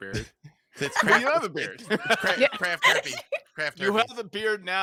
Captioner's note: laughs